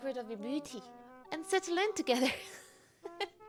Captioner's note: laughs